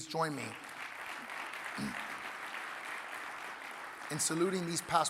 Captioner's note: audience applauding